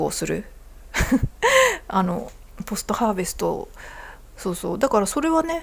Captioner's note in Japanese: 笑い